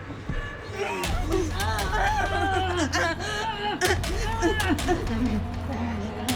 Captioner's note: Dorothy whimpering; Glinda grunting